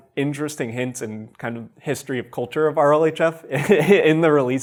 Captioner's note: chuckles